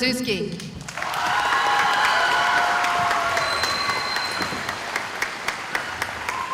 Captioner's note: cheering